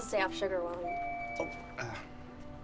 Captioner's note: elevator dings